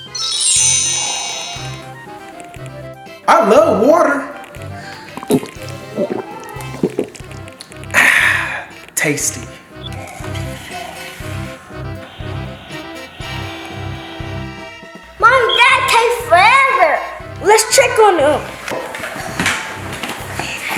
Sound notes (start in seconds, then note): 0.0 magical ting; 5.4 gulping; 10.1 curious music